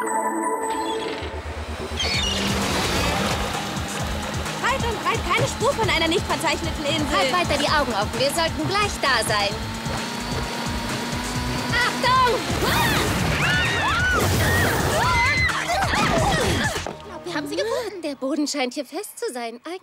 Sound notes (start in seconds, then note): 12.6 scream; 15.4 chuckles